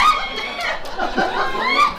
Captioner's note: audience laughs